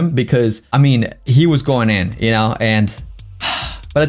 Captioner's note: sigh